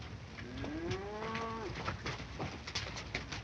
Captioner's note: distant mooing